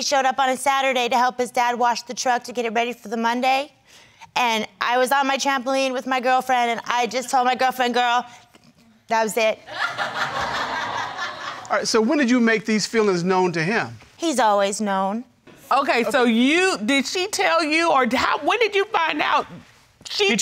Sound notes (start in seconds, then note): 9.7 crowd laughing